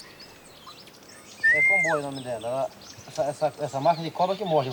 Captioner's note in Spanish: <i>habla en portugués</i>